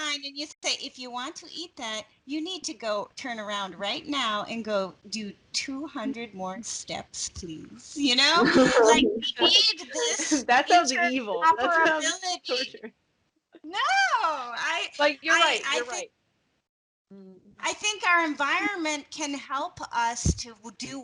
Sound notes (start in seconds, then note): 8.3 laughing